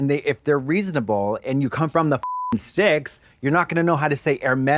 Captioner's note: beep